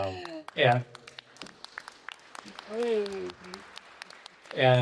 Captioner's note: applause